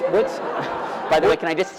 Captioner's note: laughter